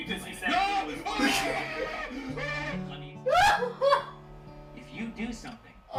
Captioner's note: yells; laughs